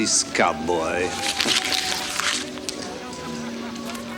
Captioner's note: paper rustles